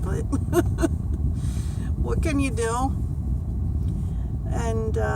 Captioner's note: laughts